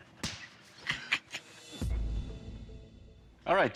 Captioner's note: laughs